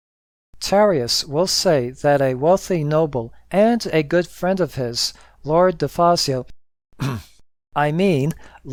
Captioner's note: uhmm